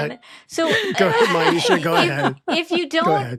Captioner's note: laughing